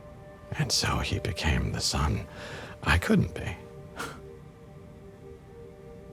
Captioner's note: chuckles